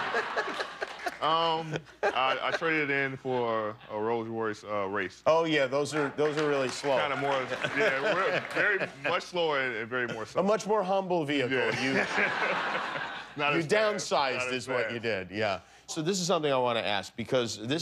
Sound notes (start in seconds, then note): 3.6 laughter